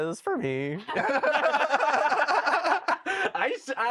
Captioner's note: all laugh